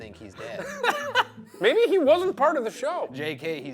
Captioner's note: laughs